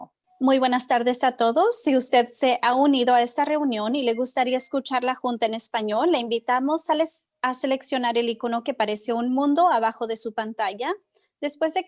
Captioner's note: spanish